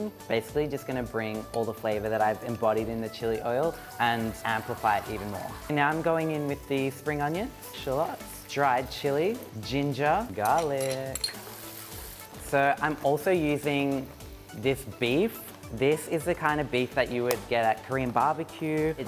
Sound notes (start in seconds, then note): 10.4 metal clanking; 11.3 food spattering